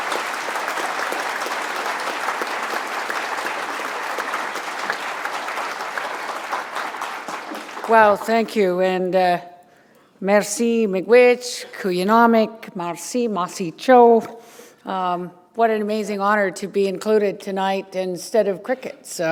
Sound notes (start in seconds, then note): 11.9 foreign language